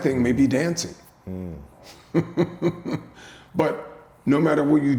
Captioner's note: chuckling